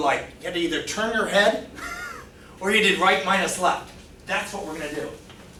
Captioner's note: laughs